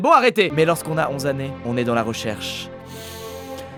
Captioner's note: deep breath